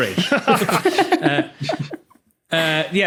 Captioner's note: group laughing